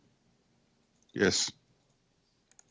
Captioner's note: speaking French